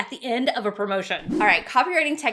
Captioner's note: swishing